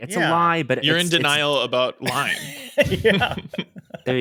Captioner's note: laughs